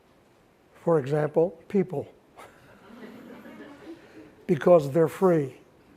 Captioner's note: all laughing